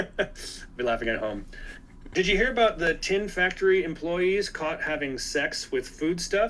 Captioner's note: laughs